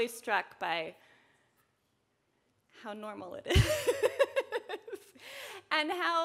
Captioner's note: laughs